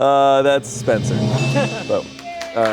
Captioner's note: bell dings; crowd applauds